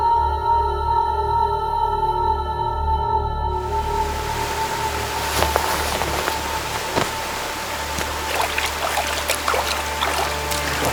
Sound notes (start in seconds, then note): 3.6 water rushing